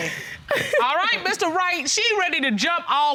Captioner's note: laughs